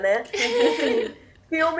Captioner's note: laughs